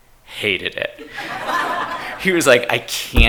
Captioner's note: attendees laughing